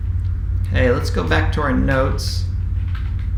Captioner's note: keyboard typing sound